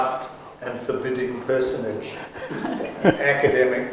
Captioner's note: audience laughs